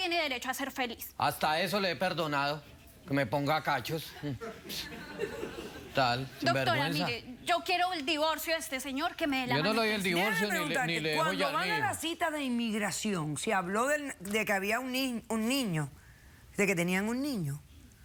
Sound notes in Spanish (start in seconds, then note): 4.1 risas